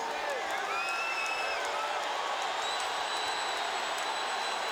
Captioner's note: crowd cheering